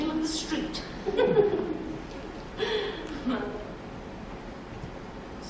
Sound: Sylvia giggles

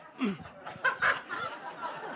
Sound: laughter

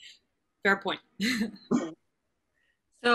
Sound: chuckles

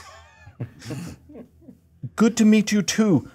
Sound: co-hosts laughing

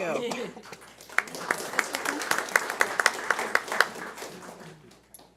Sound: audience applauding

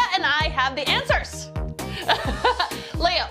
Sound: laughs

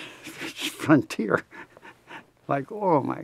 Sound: laughs

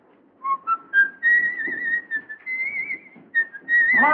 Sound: whistles

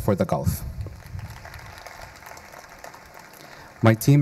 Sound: audience applauding

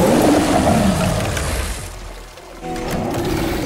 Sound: glass shattering; The Hunter growling; gunshots booming

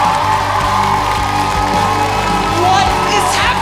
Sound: applause

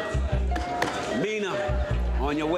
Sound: taps table

